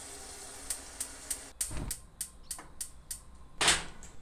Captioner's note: water splashing; stove top clicking